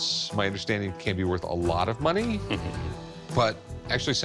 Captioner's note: owner chuckles